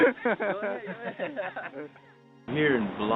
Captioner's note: soldiers laughing